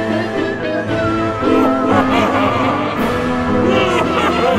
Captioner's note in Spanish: Risa diabólica